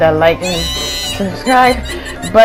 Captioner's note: confused